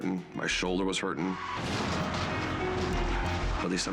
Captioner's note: crash roars